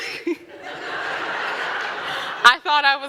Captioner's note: audience laughing